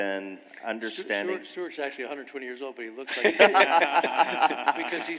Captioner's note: laughter